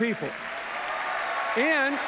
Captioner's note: cheers, applause